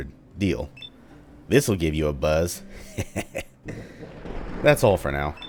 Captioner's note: thunder